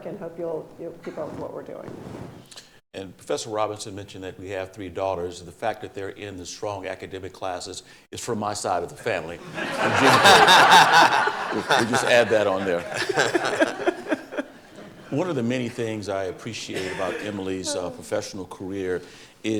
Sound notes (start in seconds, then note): 9.4 audience laughing; 13.2 audience chuckling